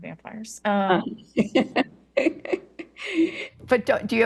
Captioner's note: laughs